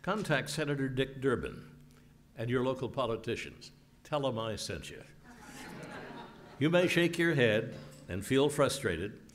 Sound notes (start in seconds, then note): 5.3 laugh